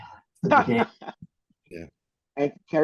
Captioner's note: laughs